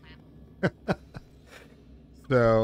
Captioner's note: laughter